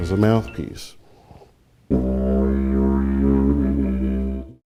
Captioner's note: horn blowing